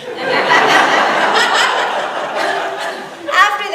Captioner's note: audience laughs